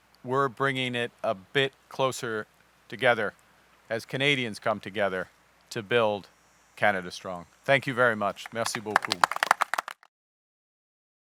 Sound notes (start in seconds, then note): 8.4 applause